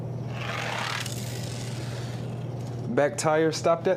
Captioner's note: toy car grating